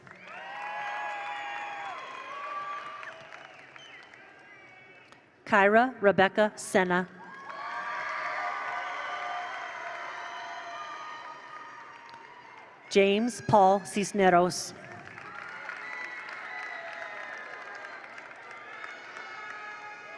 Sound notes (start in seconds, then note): 0.0 attendees applaud; 0.0 attendees cheer; 7.2 attendees cheer; 7.3 attendees applaud; 14.8 attendees applaud; 14.9 attendees cheer